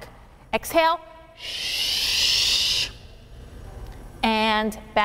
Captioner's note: exhales sharply